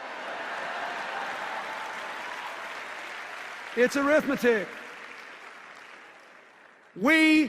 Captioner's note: laughter and applause